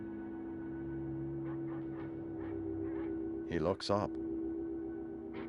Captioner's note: barking continues